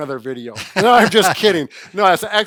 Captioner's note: laughing